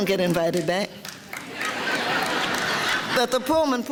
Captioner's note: audience laughter